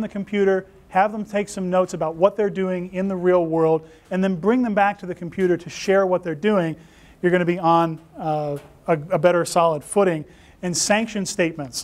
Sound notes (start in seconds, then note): none